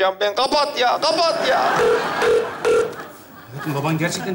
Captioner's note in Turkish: Telefon kapanır